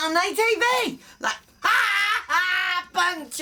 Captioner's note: laughs